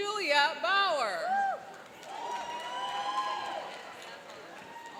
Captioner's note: cheering and applauding